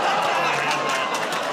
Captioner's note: audience "Oh"s